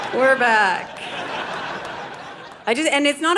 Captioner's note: audience laughing